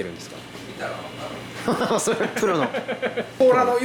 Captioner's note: laughter